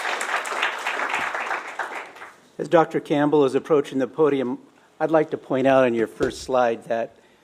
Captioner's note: applause